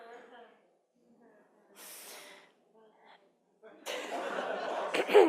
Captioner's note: participants laughing